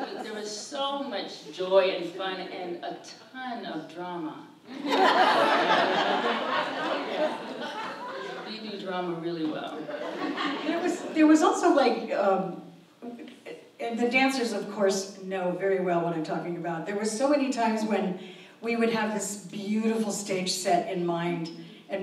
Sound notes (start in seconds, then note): 0.0 audience laughs; 4.7 audience laughs; 9.8 audience laughs